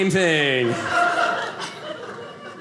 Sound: audience laughing

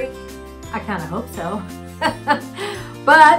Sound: laughs

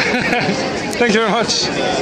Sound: laughs

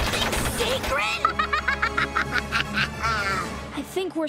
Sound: laughing

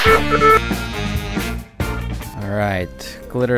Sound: beeping, musical interlude

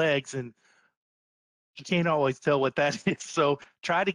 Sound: chuckles

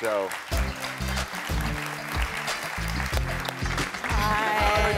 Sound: audience applauding

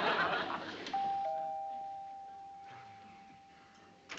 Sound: doorbell ringing

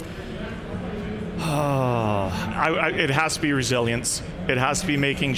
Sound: exhales

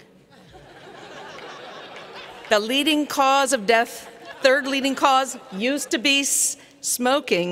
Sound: laughter; laughter

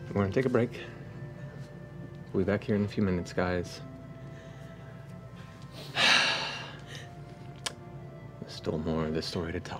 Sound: heavy exhale

